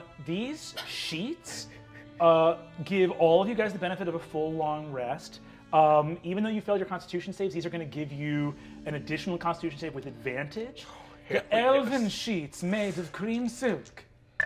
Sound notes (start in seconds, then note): 11.4 in fancy elf accent